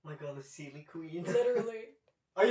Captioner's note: laughter